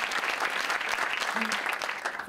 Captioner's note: applause